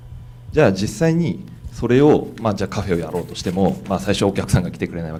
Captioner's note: speaking foreign language